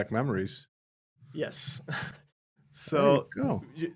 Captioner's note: laughs